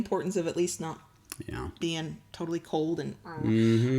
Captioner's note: grumbles